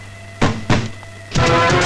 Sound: knocking

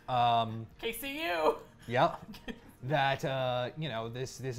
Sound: laughs

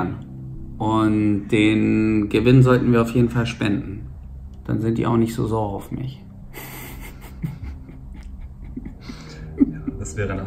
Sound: laughs

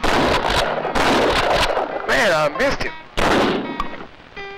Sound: gunshots; gunshot

